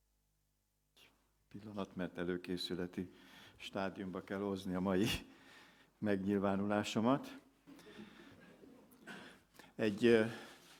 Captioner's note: laughter